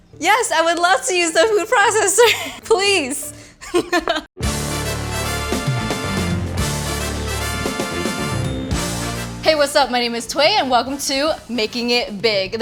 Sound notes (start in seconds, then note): 3.6 laughing; 4.4 exciting music playing